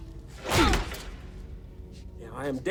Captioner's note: punch thuds